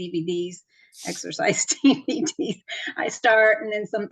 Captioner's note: laughs